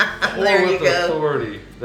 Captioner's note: laughing